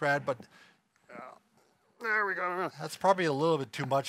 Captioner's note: groans